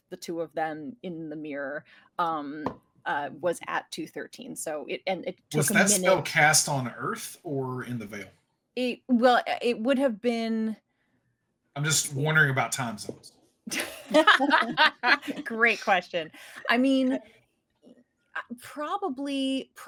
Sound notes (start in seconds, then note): 13.8 cast laughing